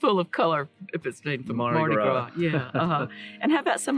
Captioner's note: speaking in unison